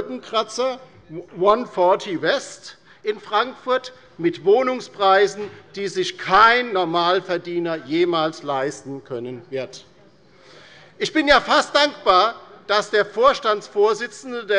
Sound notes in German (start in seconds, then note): none